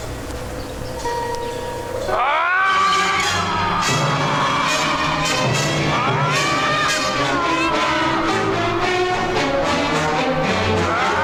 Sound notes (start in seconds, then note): 2.1 Chooper screaming; 5.0 dramatic music